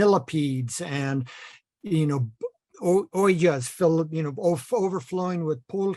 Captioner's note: foreign language